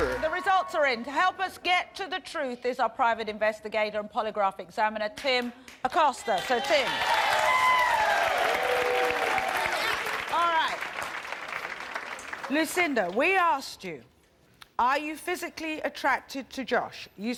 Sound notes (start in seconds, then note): 6.2 applause